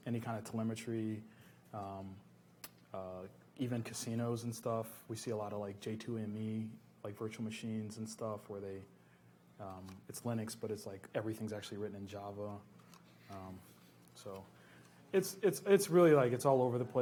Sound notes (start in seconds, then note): none